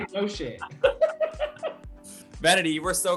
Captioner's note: laughter